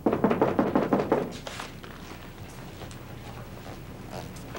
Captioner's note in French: On frappe à la porte